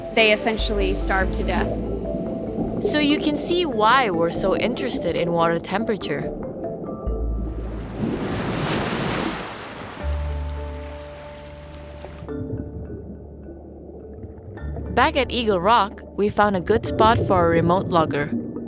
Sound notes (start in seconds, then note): 7.4 waves sounding; 9.9 calm music